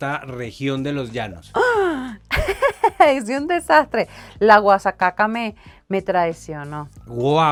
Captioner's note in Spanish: risas